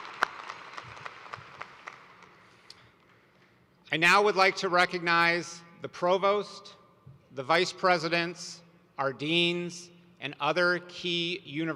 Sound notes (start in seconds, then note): 0.0 applause